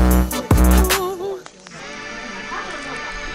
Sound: heavenly Noise

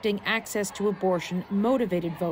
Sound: cheers and Applause

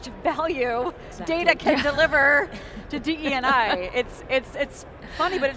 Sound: laughs

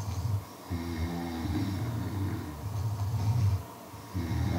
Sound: all of you snored

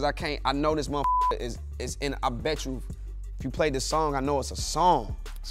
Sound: beep

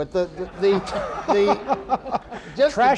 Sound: laughter

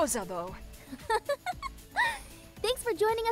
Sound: laughing

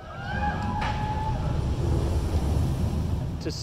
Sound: passengers scream

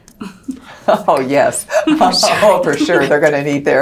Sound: chuckles

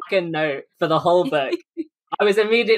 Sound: laughs

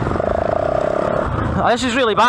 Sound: engine revving

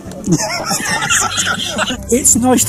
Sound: all Laugh

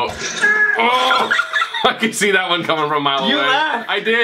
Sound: oohs

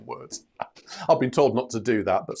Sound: laughs

